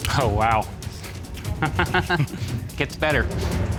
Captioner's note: laughs